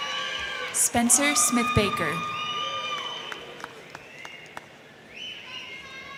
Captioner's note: crowd cheering